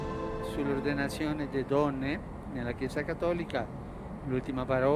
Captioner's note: in Italian